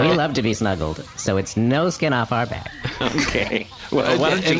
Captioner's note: laughs; happily